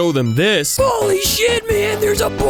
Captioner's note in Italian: in falsetto